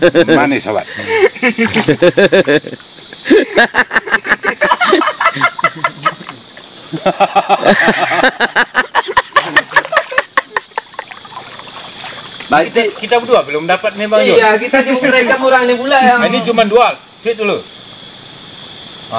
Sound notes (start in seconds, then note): 3.2 laughs